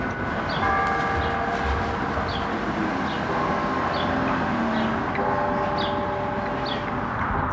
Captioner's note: bells